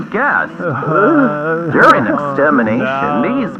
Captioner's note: punks crying on radio